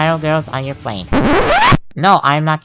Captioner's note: record scratch